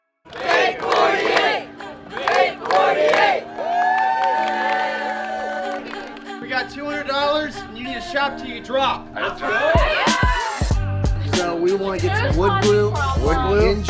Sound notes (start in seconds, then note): 2.2 upbeat music; 3.5 crowd cheering; 9.4 crowd cheering